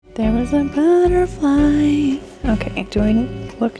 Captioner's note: singsong